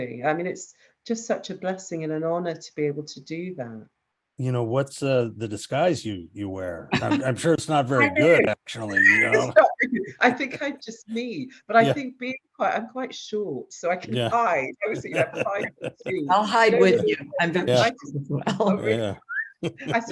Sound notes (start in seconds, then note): 7.9 she laughs; 19.1 they all laugh